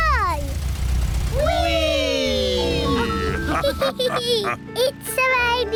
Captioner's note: all laugh